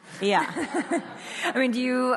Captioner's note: audience laughs